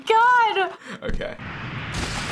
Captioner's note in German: Jetpack zoomt; Blut spritzt